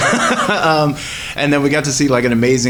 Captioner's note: laughs